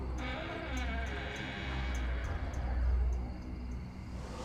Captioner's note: door creaking